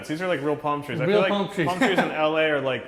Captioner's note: laughs